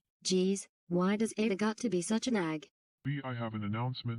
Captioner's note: on TV